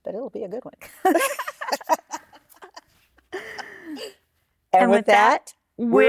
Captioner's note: laughter